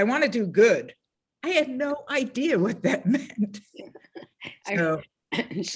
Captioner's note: laughs